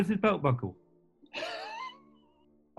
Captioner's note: sniggering